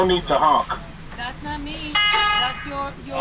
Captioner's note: honk